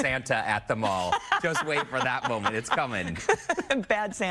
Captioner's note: laughter